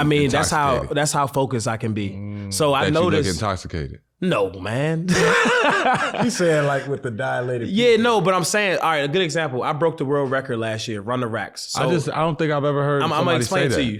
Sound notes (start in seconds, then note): 5.1 laughs